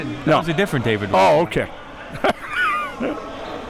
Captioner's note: chuckles